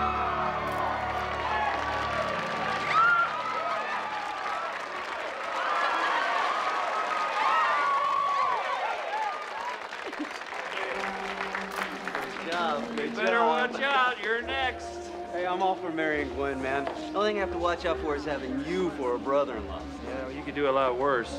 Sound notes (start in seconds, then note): 0.2 all cheering; 2.7 shrieking